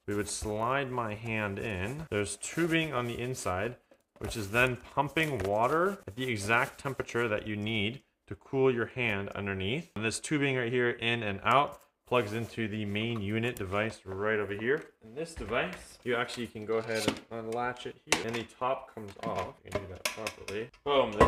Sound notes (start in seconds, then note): 18.1 lid popping